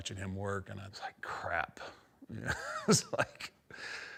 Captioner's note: chuckles